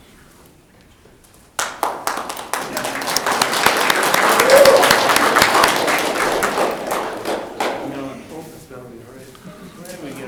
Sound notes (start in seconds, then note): 1.5 audience clapping